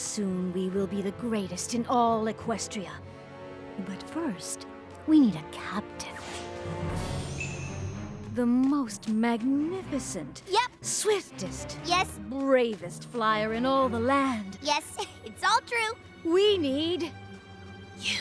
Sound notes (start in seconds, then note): 7.7 ting!